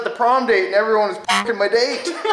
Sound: beep; laughs

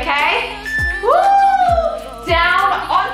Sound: timer beeping

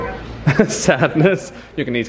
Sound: laughs

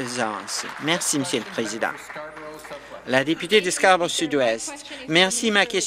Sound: applause

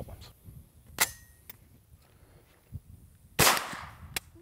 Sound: gun cocking; gun firing

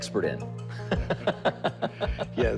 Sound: laughs

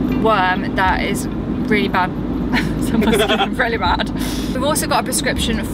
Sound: laughing

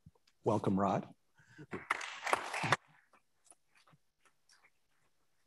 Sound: attendees applauding

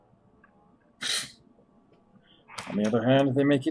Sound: scoffs

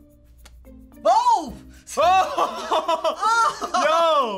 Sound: laughs

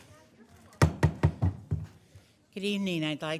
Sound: gavel banging

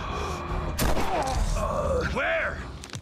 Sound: gunshot

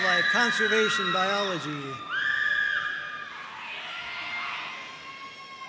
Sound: audience cheering

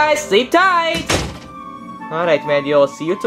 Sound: door thuds

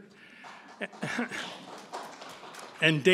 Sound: audience applauding

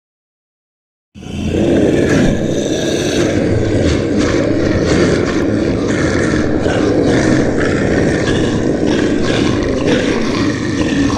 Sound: sound of monster

